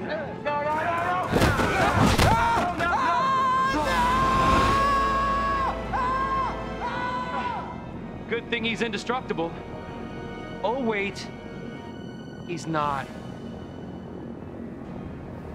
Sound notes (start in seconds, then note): 1.4 screaming